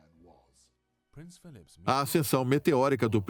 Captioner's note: voiceover